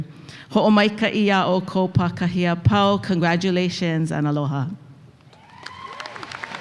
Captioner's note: speaks in Hawaiian; applause